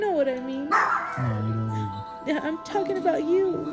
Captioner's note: murmurs